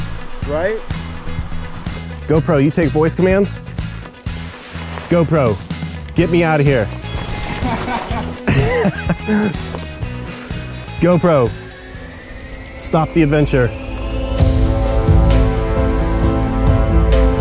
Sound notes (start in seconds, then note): 7.4 laughs; 14.4 dramatic music